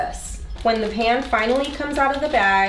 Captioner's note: plastic crinkling